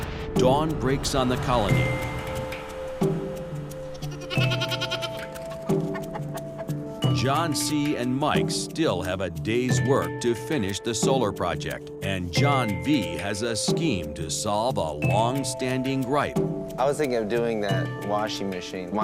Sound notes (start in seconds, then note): 3.9 bleats; 6.0 clucking